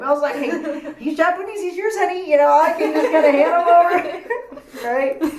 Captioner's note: laughs